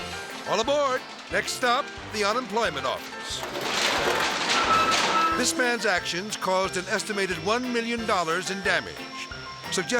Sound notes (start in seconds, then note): 3.9 metal creaking